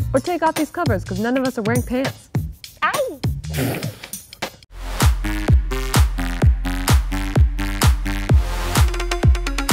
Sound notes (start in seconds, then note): 3.7 laughing; 4.9 funky instrumental music